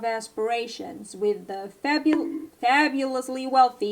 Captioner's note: bonk